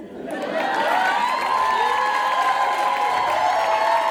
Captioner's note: audience cheers and applauds